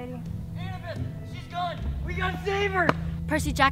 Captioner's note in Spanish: la voz de Percy en la distancia